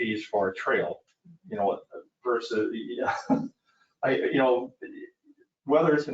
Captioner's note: chuckles